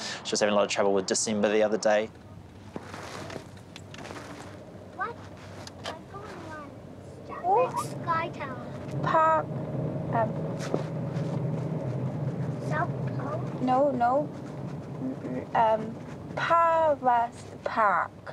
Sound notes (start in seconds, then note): 4.9 chatters